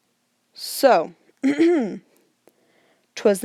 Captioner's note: ahem